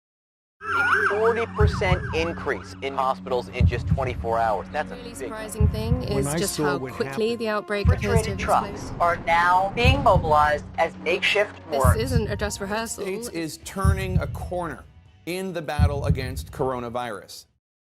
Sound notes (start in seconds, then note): 0.6 sirens wail